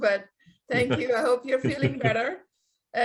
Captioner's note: laughing